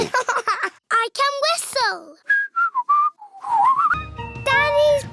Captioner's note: laughs; whistles